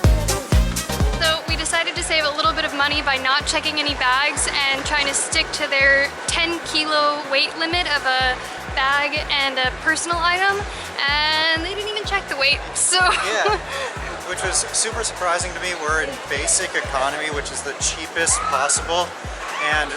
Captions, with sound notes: So we decided to save a little bit of money by not checking any bags and trying to stick to their 10-kilo weight limit of a bag and a personal item and maybe even check the weight. (Giggles). Yeah, Which was super surprising to me. We're in basic economy, which is the cheapest possible and